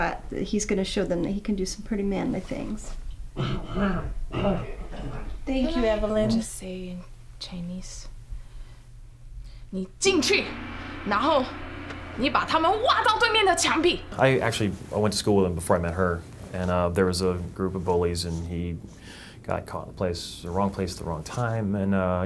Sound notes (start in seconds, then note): 3.4 coughing noises; 9.7 chinese